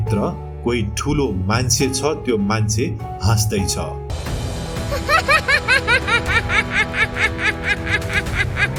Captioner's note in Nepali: हास्य